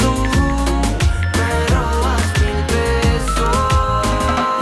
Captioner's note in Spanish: máquina pitido